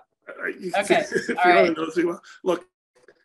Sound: laughs

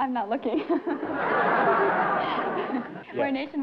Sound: laughter

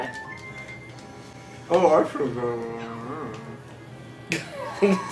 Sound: mutters; laughs

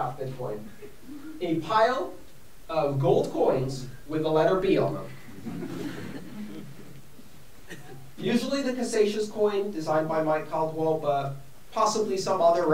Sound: laughter

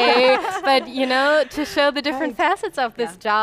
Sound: laughs

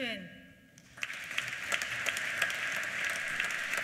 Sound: applause

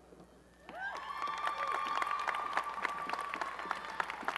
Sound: applause and cheering

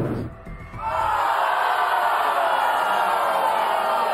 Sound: audience boos

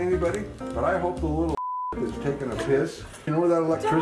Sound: beep

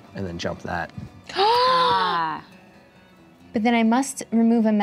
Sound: gasps

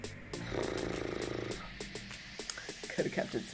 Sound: sighs

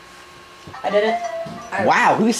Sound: phone's text message notification sound

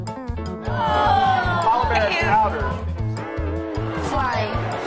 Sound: children exclaim

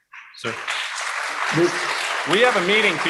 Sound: applause

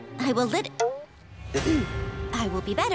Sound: clearing throat

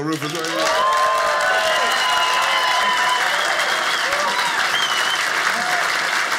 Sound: audience cheers; audience applauding

